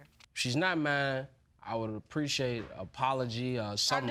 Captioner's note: none